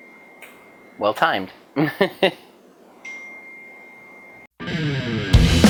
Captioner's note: ding; laughs; ding